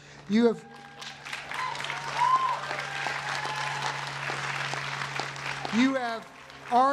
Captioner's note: cheering and applause